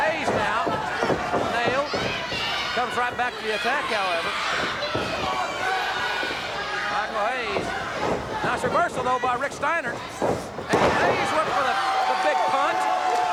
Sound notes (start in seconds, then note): 4.9 audience cheers